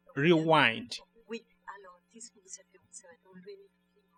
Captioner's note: speaking french